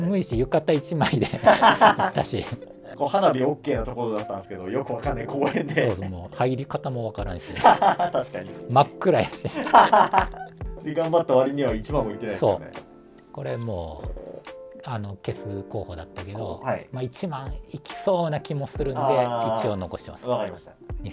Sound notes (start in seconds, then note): 1.0 laughing; 7.5 laughing